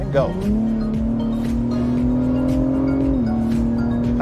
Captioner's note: engine revs